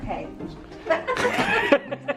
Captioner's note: multiple people laugh